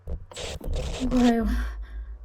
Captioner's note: screen crackling